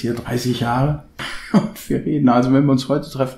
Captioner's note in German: lacht